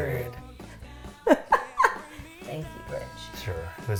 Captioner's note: laughing